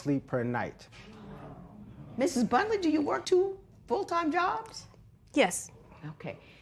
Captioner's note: spectators murmur